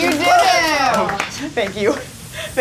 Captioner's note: clapping